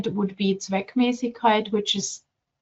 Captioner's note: speaking German